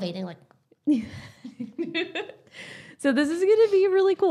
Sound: laughing

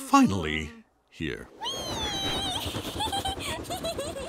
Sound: giggling

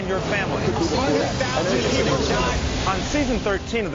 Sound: jumbled chattering

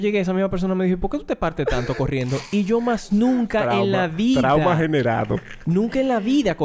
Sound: laughs

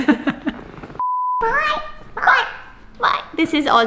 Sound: Filly's doll voice

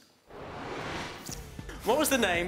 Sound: whooshing

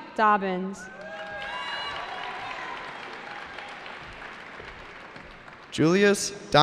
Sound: cheering

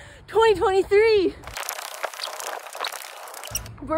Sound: tape fast forwarding

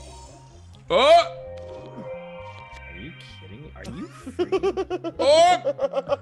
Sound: laugh

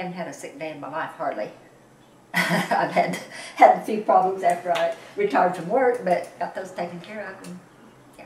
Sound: laughs

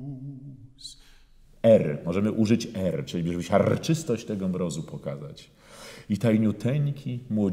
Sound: in Polish

